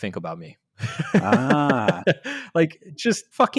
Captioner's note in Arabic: يضحك